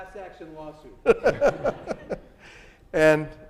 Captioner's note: laughing